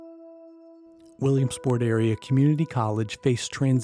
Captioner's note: voiceover